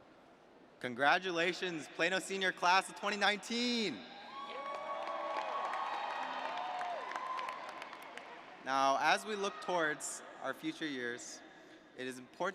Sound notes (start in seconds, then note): 4.0 cheers